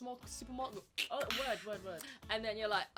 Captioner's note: imitates can opening